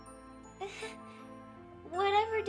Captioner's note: laughs uncomfortably